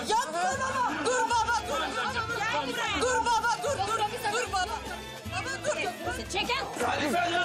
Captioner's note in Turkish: Bağrışmalar